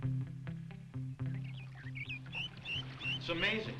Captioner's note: birds chirping